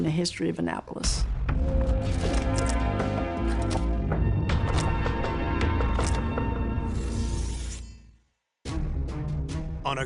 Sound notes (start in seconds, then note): 2.7 dramatic music; 4.2 shutter clicking; 7.3 blades rubbing together; 8.6 dramatic music